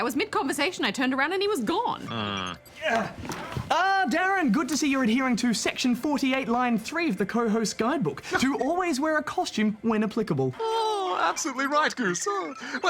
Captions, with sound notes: I was mid-conversation, I turned around and he was gone. Mmm. (GRUNTS) Ah, DARREN, good to see you're adhering to section 48, line 3 of the co-host guidebook - to always wear a costume when applicable. Oh! Absolutely right, Goose.